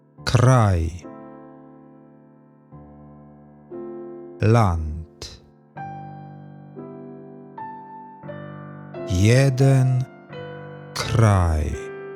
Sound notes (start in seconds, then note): 5.9 german